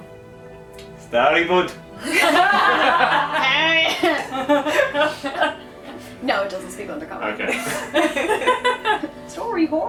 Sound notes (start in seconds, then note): 2.0 laughter